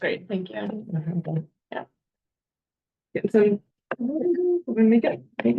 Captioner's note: people chattering